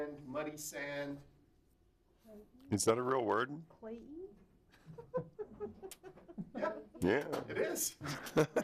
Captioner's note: chuckling